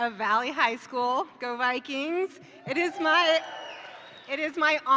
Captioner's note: attendees cheer